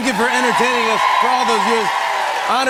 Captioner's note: cheers and applause